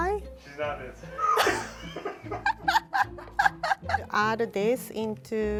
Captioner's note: both laughs